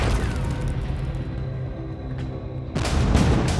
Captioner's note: loud explosion; tense music